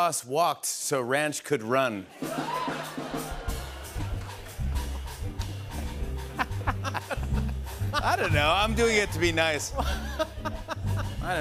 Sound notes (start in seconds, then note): 2.5 laughter